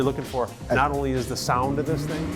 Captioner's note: car engine roars